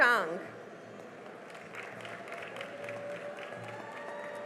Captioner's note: cheering and applause